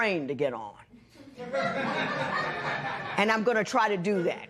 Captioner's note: laughter